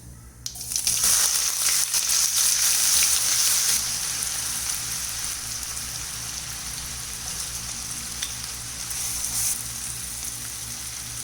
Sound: sizzling

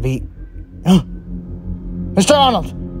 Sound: gasps

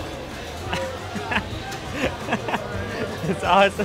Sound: laughs

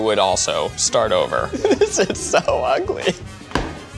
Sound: laughs

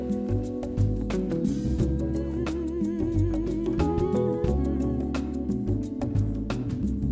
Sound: mmmmm, mmm, mmm

